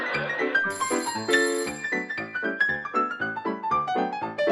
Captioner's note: audience laughing; phone ringing